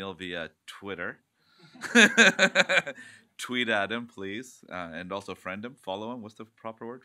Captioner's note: laughs